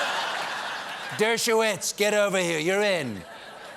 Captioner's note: laughter